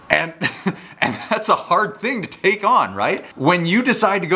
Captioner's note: laughs